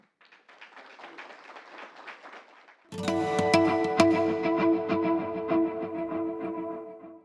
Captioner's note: applause